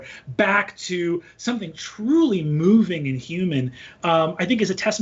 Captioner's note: none